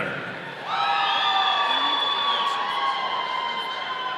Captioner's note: audience cheering